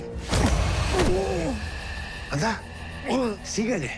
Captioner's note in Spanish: Quejido